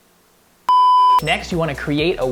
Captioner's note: beep